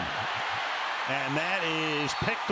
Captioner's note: cheering